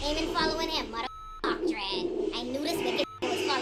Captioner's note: beep